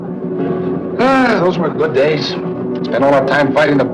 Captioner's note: sighs